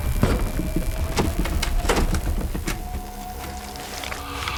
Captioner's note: suspenseful music; doors rattling